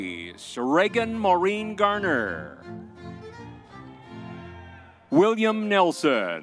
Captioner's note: crowd cheering